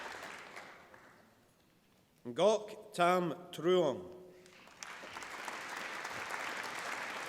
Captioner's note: applause